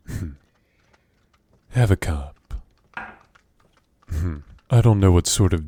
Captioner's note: sip